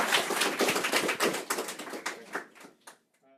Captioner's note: applause